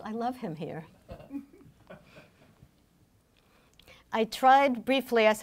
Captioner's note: laughing